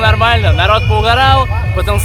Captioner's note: siren sounds